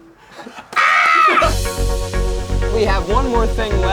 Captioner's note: screams